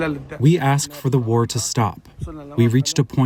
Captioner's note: through translator